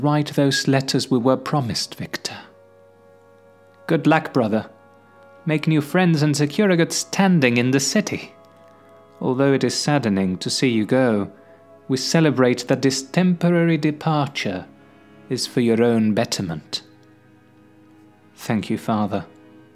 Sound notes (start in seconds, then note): none